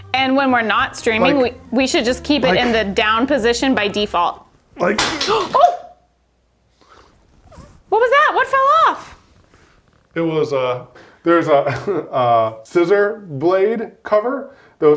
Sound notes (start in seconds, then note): 4.8 metal clatters